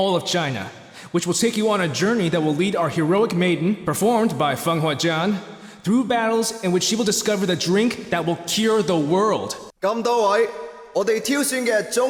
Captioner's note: translates in cantonese